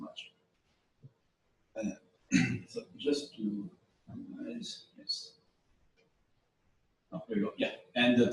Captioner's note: pause